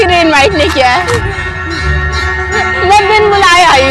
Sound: bell chimes

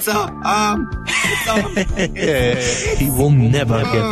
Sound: heheheheh

